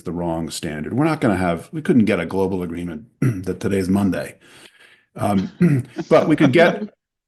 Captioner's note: laughter